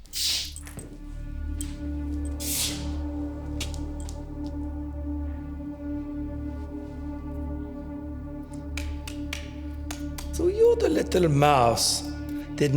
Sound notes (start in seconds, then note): 0.2 sinister music; 9.8 whip slapping